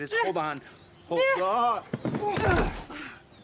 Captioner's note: both grunt